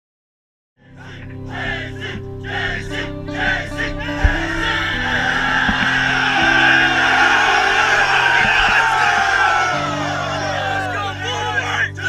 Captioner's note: chanting